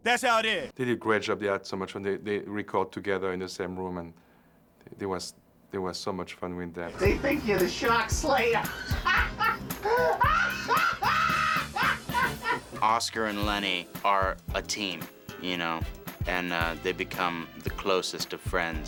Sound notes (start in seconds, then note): 8.6 laughs uproariously